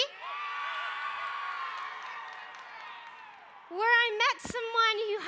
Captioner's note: crowd cheering